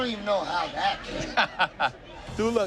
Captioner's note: laughs